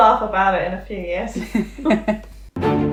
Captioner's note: laughing